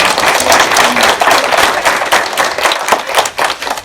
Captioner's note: applause